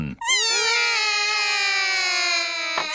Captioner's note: all cry